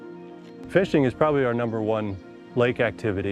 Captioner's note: birds chirping